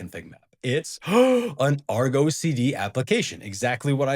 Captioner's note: gasp!